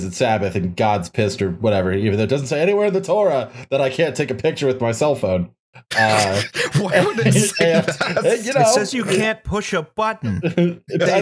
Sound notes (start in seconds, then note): 6.0 laughter; 10.1 laughter